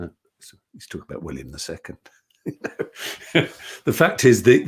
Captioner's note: laughs